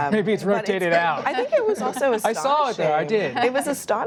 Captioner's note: laughter